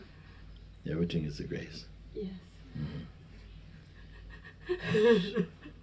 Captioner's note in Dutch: begint te huilen